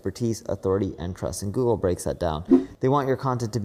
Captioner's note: graphics whooshing